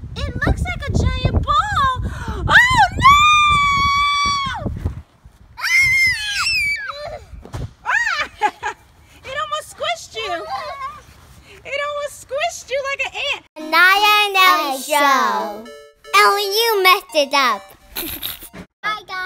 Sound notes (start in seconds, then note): 5.6 girls screaming; 8.0 laughing; 9.4 voiceover